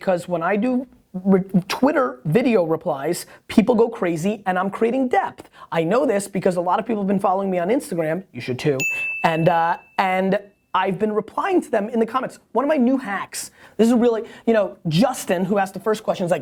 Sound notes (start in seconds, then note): 8.8 tinging bell